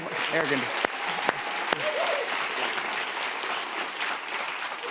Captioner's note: cheers and applause